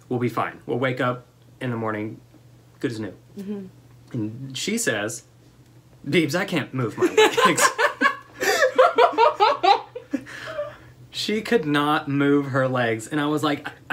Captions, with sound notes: We'll be fine, we'll wake up in the morning, good as new. And she says, babes I can't move. (laughter) She could not move her legs and I was like,